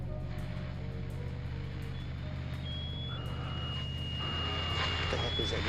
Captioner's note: shrill whistle over radio